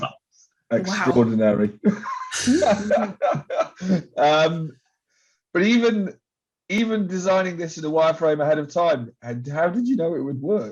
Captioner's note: laughs